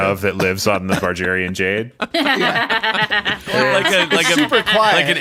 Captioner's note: laughing